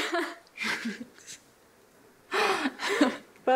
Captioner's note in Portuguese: risos